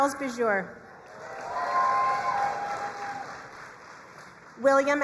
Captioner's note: crowd cheering and applauding